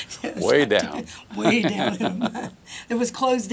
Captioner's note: laughter